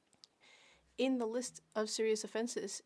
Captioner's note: speaking French